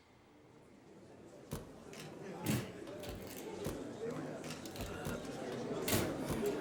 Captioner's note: people chattering; cameras clicking